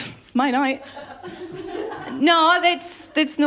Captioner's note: laughter